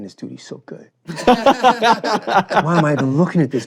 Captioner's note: laughing